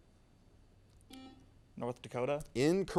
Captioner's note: buzzer sounds